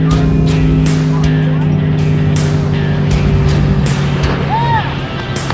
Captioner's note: car engine rumbling; crowd talking; cheering